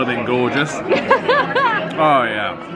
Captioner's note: laughs